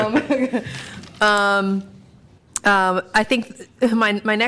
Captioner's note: laughter